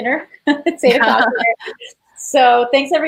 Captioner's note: laughs